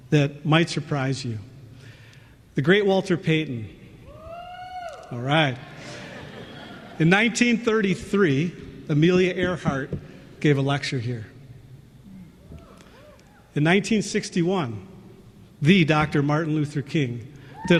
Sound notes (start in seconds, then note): 4.1 cheering; 5.6 laughter